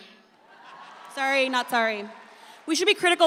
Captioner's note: audience cheers